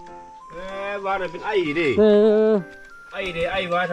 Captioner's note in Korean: 기침이 있어요